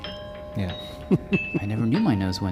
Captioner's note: laughs